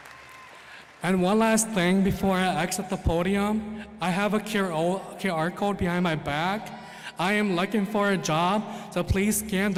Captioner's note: applause